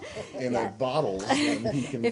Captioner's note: laughter